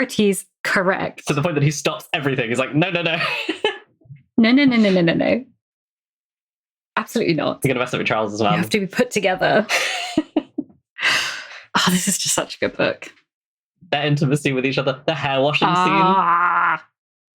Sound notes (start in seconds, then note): 2.8 laughs; 15.5 laughs